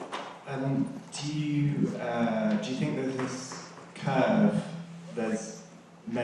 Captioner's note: voiceover